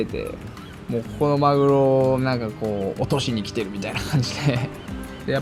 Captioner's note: chuckles